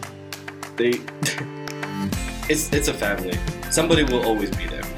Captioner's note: laughs